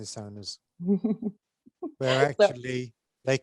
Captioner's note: chuckles